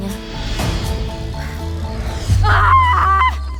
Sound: takes deep breath; screams and exhales deeply

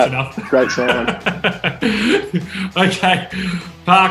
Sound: Andy laughs

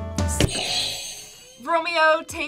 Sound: soft music; buzzer rings

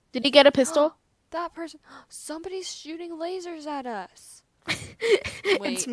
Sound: gasp; laughs

